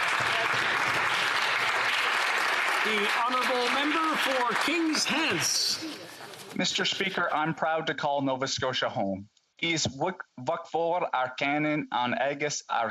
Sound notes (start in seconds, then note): 5.0 applause